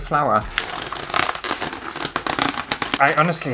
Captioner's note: balloon Squeaks